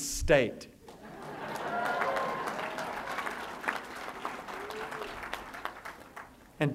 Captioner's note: applause